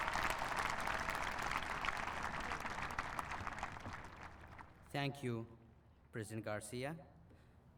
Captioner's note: applause